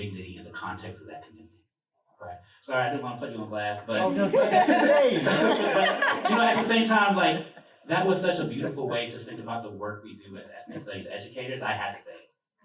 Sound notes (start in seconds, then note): 3.9 laughter